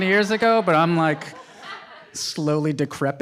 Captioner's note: audience laughs